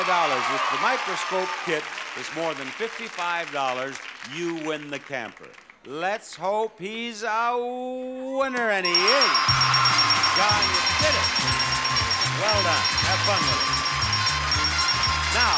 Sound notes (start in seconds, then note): 0.0 audience applauds; 8.8 bell dinging; 8.8 audience applauding; 11.8 happy music